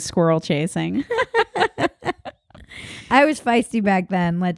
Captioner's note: laughing